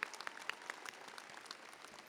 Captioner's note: applause